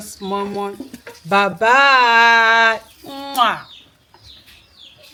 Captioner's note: kisses